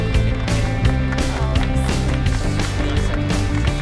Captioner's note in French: applaudissements